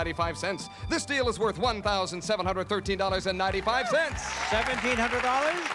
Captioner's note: applause